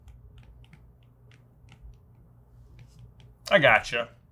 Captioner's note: tablets clicking